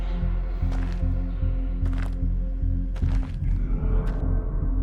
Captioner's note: footsteps crunching